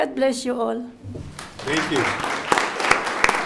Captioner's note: audience applauds